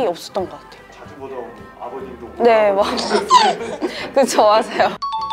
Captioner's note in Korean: 웃음